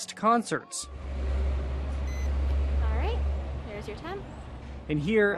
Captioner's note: thermometer beeps